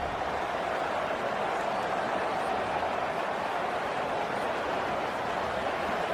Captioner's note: crowd Noises